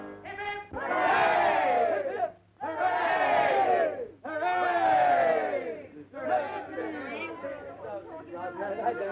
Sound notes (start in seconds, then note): 6.1 group chattering